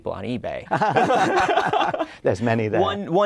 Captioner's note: laughter